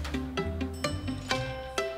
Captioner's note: elevator pings